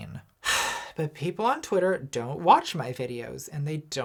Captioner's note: sighs